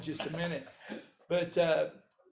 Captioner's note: laughing